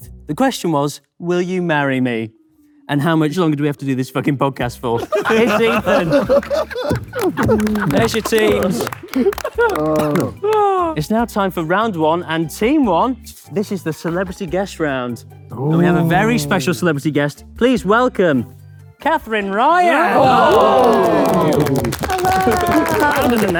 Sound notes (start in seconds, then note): 5.0 group laughing; 8.9 group clapping; 19.8 group applauds